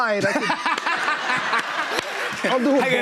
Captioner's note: laughter